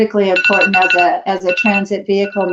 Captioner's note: phone rings